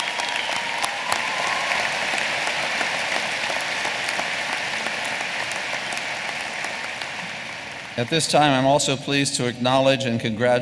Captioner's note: applause